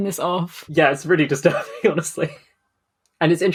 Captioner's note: laughing